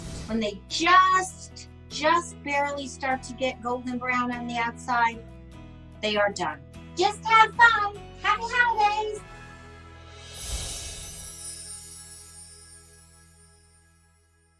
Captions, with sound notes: When they just, just barely start to get golden brown on the outside, they are done. Just have fun! Happy Holidays! (windchimes ring)